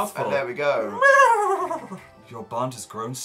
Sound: neighing noise

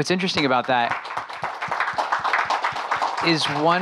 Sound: audience applauding

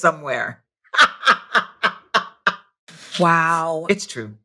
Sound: laughing

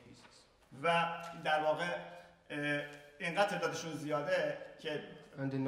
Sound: speaking in farsi

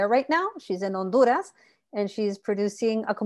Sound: speaking Spanish

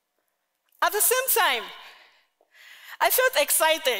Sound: none

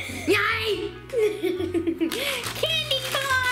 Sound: giggles

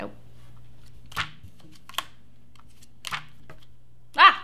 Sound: cards flipping

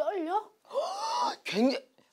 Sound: gasp

